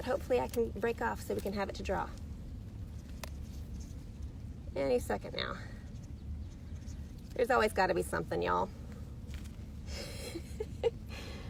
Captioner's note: giggles